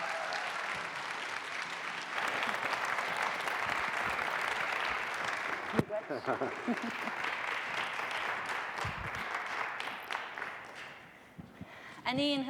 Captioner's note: applause